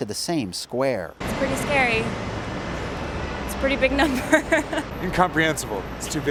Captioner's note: chuckles